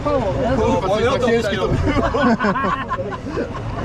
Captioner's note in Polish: śmiech